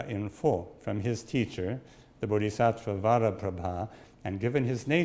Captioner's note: speaks in Sanskrit